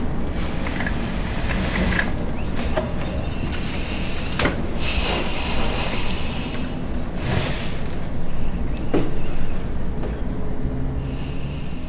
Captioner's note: footsteps gently approaching